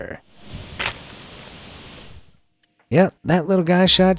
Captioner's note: exploding cucumber popping